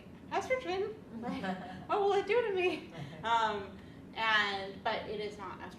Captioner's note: laughs